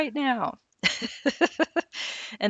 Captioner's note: laughing